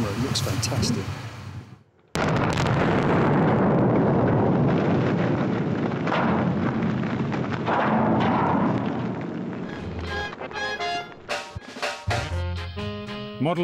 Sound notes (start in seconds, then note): 2.1 boom!